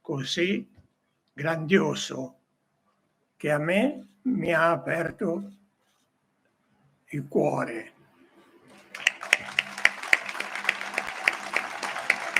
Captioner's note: applausi